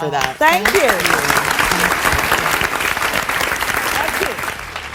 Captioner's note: audience applause